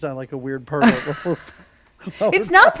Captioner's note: both laugh